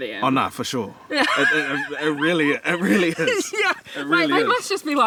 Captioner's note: laughs